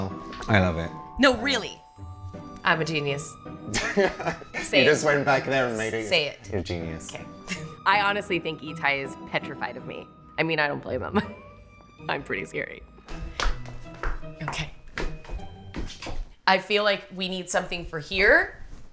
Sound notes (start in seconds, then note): 3.6 laughs; 11.1 chuckles